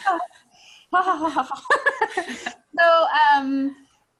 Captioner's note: laughing